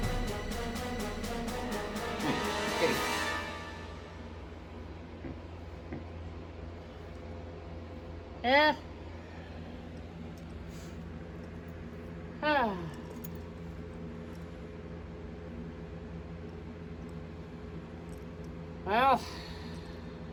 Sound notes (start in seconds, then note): 12.4 sighs